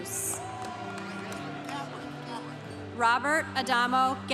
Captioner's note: congregation cheering